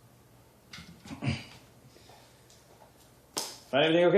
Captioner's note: clears throat